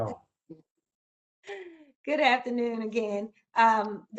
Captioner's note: laughter